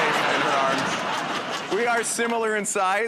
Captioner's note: laughter